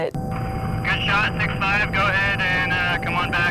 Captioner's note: radio traffic